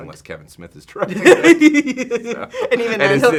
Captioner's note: laughing